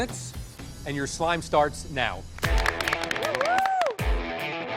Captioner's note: clapping